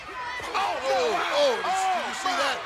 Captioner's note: commentators exclaim